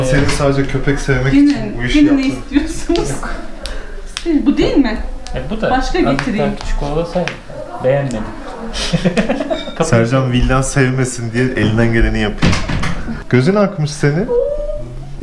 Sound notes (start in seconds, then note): 8.2 chuckles